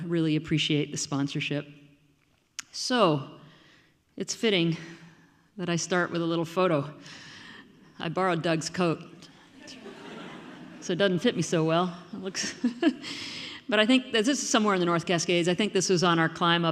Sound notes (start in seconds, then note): 9.6 audience laughing; 14.0 laughing